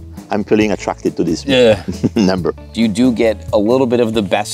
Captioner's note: laughs